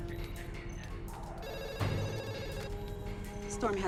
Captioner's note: phone rings